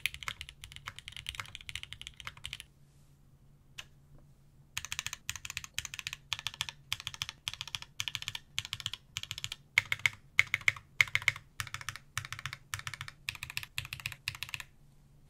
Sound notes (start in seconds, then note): 3.1 typing sounds